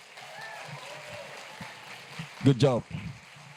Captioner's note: applause